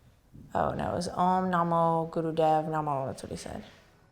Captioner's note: none